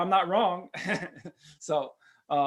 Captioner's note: laughs